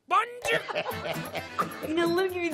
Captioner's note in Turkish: Gülme sesi